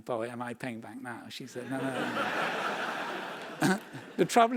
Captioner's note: laugh